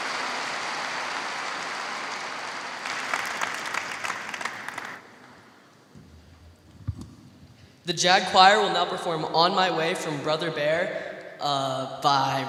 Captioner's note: cheers and applause